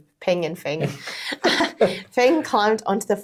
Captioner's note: speakers chuckling